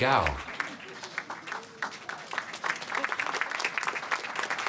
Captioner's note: applause